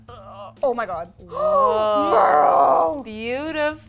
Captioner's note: gasps